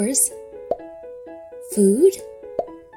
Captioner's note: objects popping